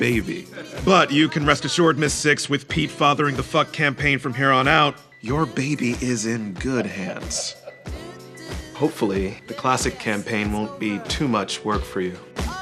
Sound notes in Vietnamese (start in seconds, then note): 6.6 tiếng cười